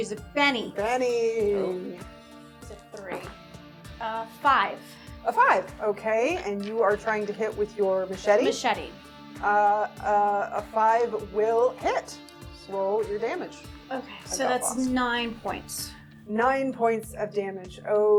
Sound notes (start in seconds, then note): none